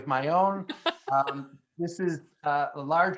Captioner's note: laughing